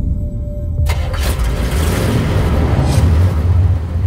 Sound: engine gets started

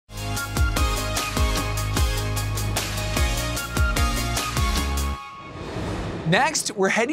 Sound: transition whooshes; upbeat music

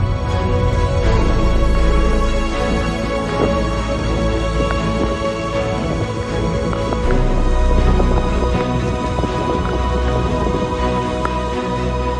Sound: sound of wind

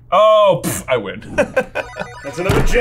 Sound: blows raspberry; laughs

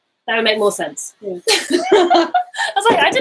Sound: laughing

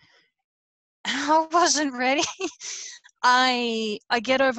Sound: laughs

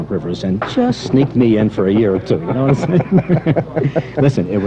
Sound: laughter

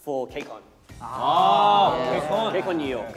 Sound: all exclaiming

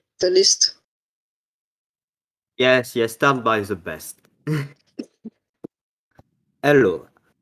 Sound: laughs

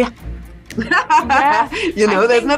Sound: laughter

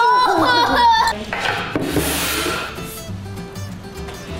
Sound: scraping

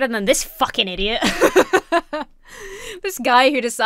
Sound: laughs

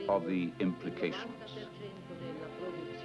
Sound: speaking in foreign language

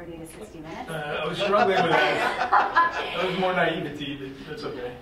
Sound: laughing

